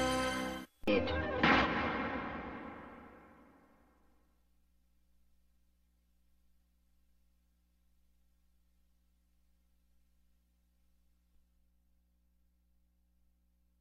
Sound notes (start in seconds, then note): 4.3 silence